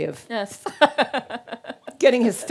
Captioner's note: laughing